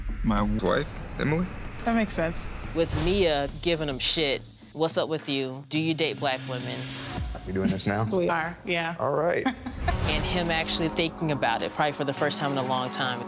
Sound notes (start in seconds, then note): 9.3 chuckles